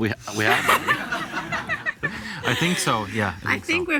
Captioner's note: audience laughs